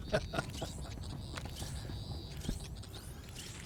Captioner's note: laughter